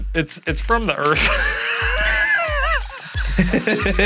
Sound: laughing

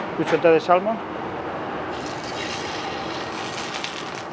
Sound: oil crackles

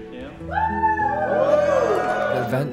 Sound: creators cheering

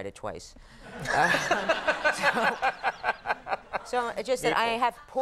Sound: Conan and audience laughing

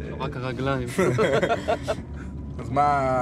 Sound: laughing

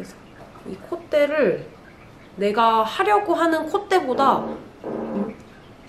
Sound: phone vibration

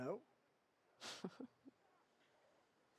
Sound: laughs

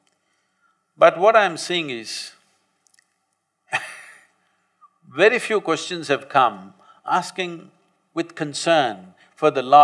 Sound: laughs

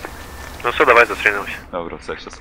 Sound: on the phone

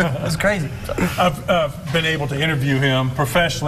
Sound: laughing

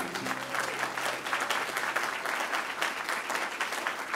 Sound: crowd applauding

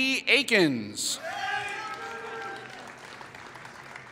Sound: applause

